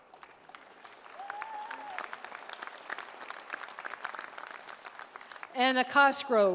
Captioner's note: applause